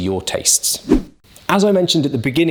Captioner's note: air whooshes